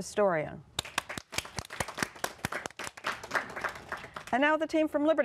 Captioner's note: applause